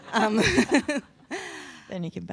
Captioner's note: person laughing